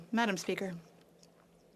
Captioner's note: speaking French